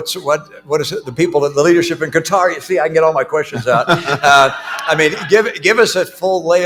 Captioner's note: laughter